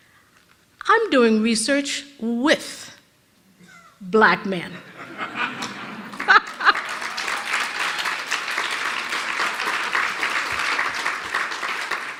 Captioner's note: rires/applaudissements de l'auditoire